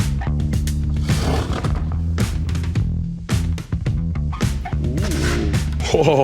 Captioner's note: steam hisses; wooden spatula clatters